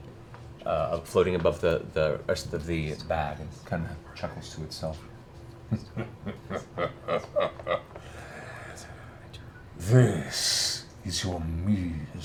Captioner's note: chuckles